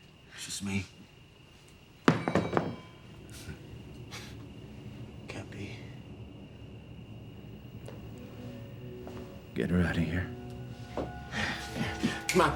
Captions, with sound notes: It's just me. (crowbar clatters) (dramatic music) - Can't be. - Get her outta here.